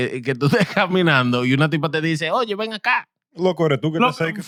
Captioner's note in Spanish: Hablando en idioma extranjero